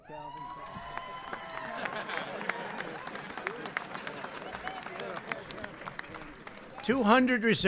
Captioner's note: applause and laughter